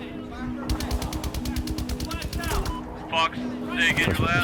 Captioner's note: automatic weapons chatter